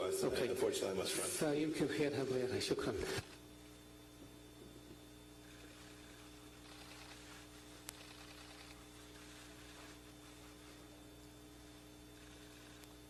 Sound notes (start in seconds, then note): 2.8 in Arabic; 5.8 camera clicks